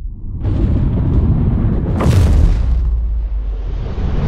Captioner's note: thunder rumbling